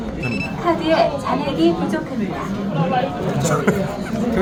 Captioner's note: beep sound; machine voice